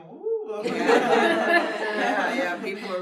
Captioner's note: everyone laughs